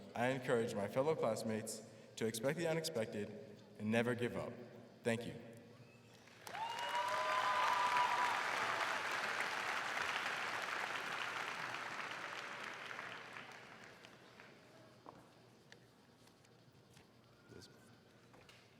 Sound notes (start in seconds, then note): 6.6 crowd cheering; 8.6 crowd clapping